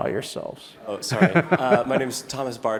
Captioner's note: laugh